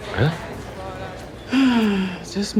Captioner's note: dr. parker ellis sighs